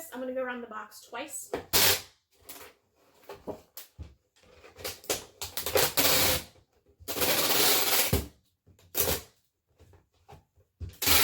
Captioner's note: pause in speaking